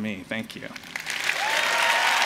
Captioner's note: applause